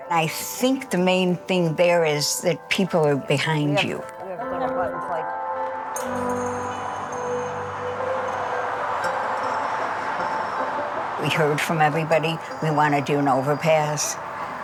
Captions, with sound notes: I think the main thing there is that people are behind you. (pensive music) (vehicles whirring) We heard from everybody, "We wanna do an overpass,"